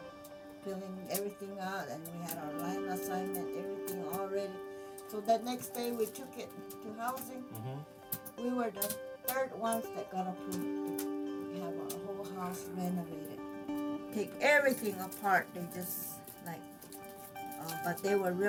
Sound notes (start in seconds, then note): 0.5 chattering